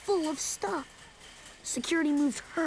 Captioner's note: cart clattering